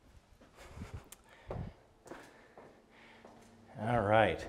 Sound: breathing deeply

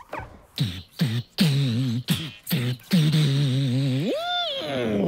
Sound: hums

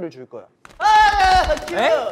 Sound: flapping

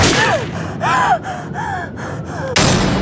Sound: heavy panting

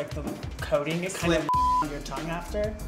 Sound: beep

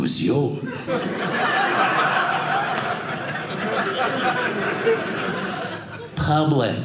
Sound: audience laughing

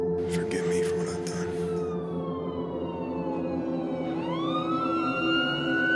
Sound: police sirens

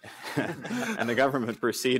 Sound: laughter

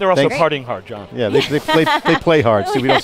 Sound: laughs

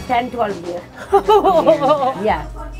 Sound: laughs

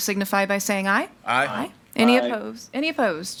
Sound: in Unison

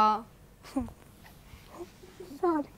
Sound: laughs

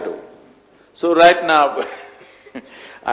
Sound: laughs

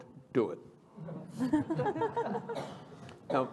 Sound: laughter

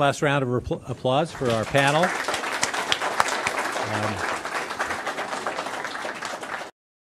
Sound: applause

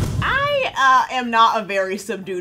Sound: air whooshing

